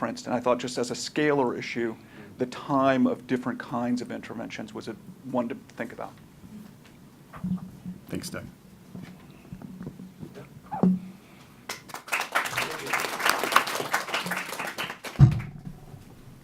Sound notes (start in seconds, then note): 11.6 applause